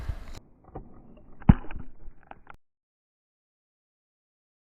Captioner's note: cracking sound